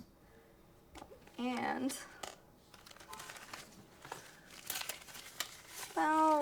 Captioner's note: money rustles